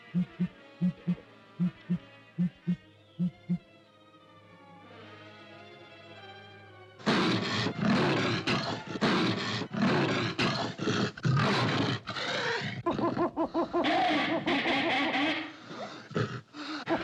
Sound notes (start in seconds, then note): 0.0 ominous music; 0.8 owl hoots; 3.8 ominous music; 7.1 panther roars; 12.8 cacophony of animal noises